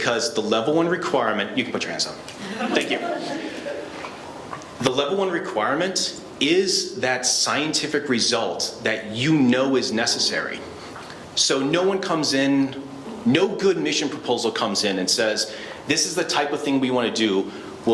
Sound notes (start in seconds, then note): 2.4 laughing